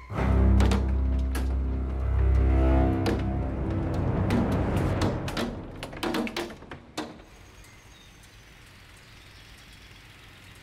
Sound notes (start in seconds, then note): 0.7 hail hitting window; 6.9 birds chirping